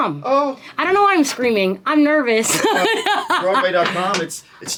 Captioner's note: laughs